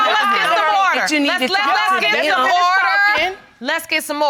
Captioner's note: continue arguing